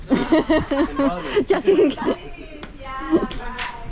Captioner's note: laughing